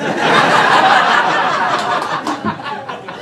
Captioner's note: crowd laughing